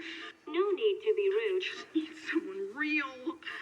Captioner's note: woman on phone